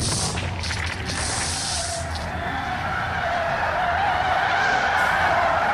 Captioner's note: wheels squeaking